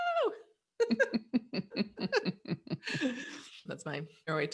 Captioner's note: laughs